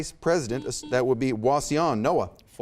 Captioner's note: buzzer beeps